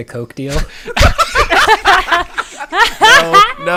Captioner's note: laughter